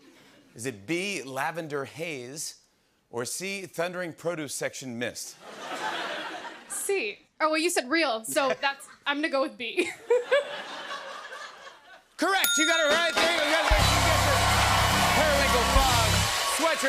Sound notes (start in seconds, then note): 9.8 laughter